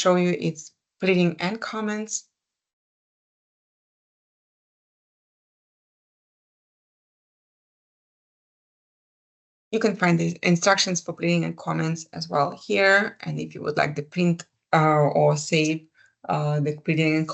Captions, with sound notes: you is pleading and comments. [silence] You can find the instructions for pleading and comments as well here. If you would like to print or save the pleading